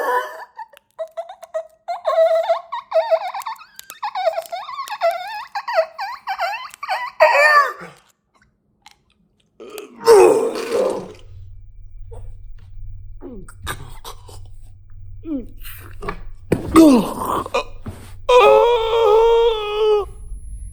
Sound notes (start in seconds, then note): 9.7 Chuck vomiting; 18.5 Chuck gasping for breath